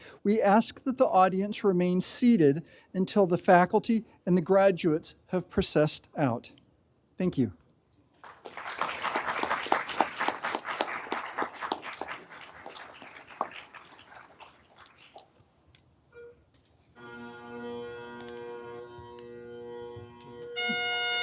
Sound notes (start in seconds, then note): 8.2 everyone applauding; 16.9 bagpipe music begins